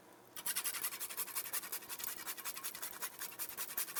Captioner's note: nutmeg grating